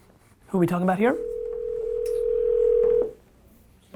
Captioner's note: phone ringing